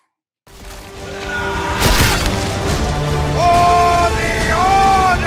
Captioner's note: soldiers yelling; dramatic music